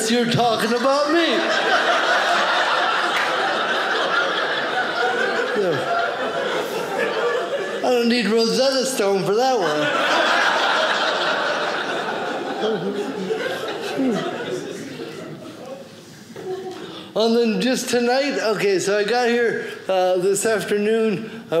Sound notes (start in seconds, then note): 2.5 audience laughing; 10.8 audience laughing